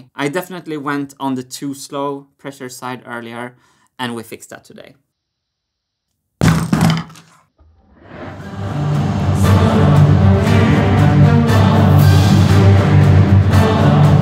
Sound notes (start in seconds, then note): 6.4 whack; 7.7 dramatic music